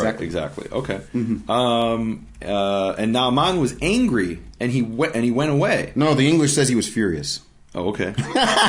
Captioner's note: laughing